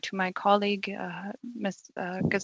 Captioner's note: speaking Alternate Language